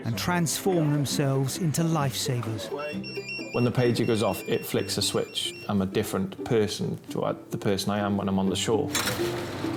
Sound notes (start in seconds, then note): 2.7 pager beeping